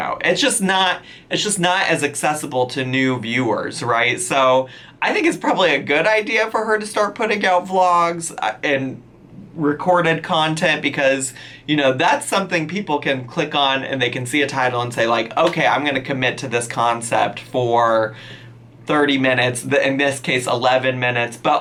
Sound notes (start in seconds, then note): none